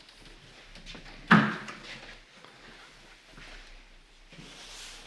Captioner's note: door bangs